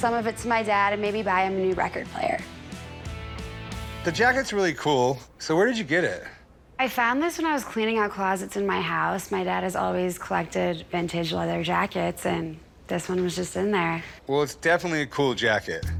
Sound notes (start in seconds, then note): none